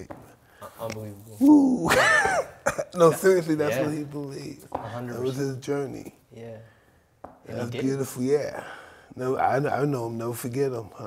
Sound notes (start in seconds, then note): 1.7 Mike laughs